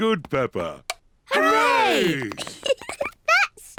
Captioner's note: giggles